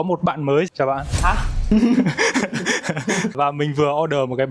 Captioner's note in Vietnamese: tiếng cười